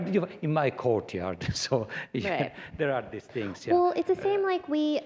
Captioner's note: laughter